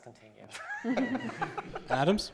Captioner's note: laughter